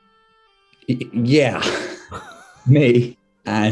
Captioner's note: sniggering